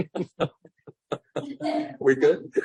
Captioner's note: laughs; laughter